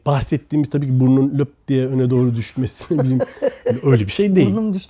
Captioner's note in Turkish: kahkaha